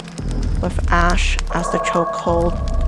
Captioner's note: fire crackling